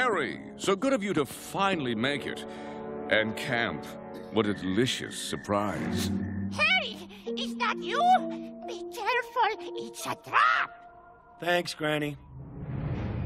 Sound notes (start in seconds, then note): none